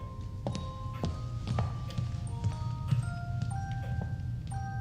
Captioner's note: footsteps thudding